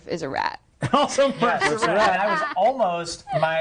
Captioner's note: laughing